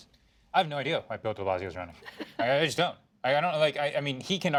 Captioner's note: laughter